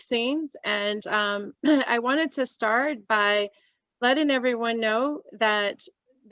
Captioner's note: coughs